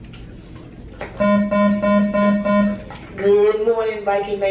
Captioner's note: intercom beeping